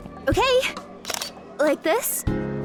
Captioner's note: camera snap